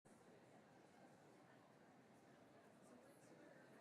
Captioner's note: audience chatter